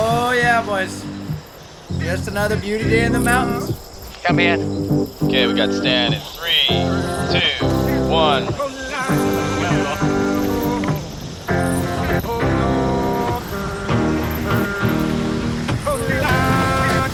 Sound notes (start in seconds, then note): 5.4 man On Radio; 9.0 upbeat electronic music